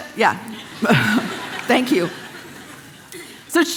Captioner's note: congregation laughing